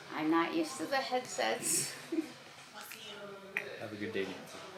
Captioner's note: chuckles